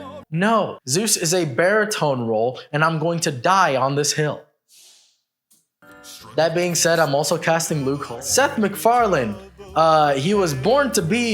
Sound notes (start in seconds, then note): none